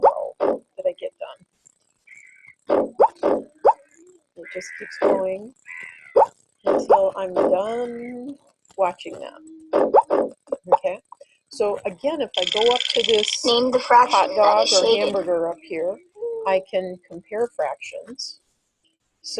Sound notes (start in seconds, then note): 2.3 bleating and snorting; 13.7 voiceover